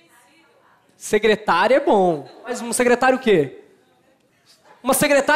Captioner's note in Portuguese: plateia dá sugestões